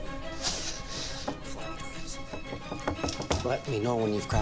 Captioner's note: exhales